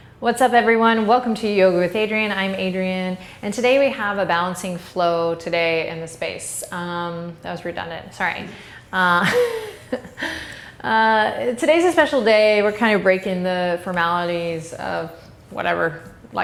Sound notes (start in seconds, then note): 9.2 laughs